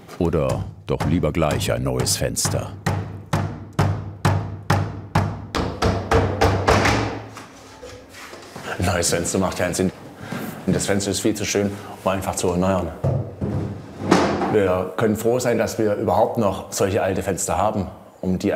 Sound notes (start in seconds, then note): 3.1 knock